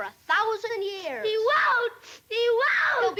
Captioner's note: sobs